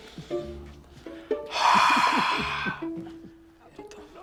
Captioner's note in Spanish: exhala